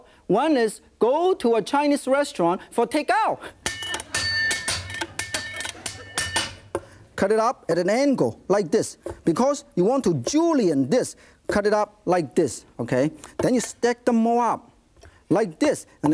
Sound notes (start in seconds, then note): 3.6 taps knife rhythmically; 6.1 audience chuckles